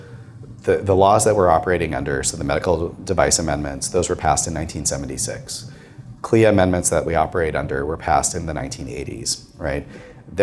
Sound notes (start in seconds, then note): none